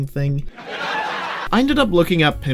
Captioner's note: laugh track because i'm SO FUNNY